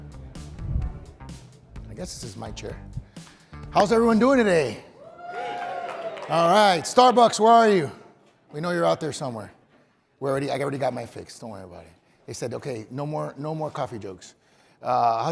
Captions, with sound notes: - I guess this is my chair. How's everyone doing today? (crowd cheering) All right, Starbucks, where are you? We know you're out there somewhere. Well, already, I already got my fix, don't worry about it. They said, okay, no more coffee jokes.